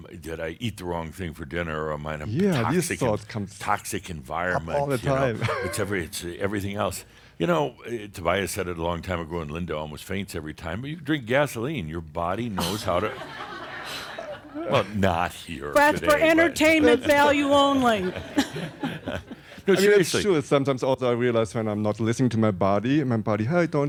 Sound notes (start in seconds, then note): 4.6 he chuckles; 12.6 more chuckles; 16.6 more chuckles